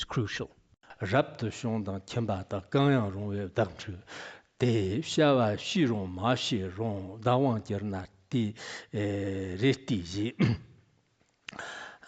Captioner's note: giving oral transmission in Tibetan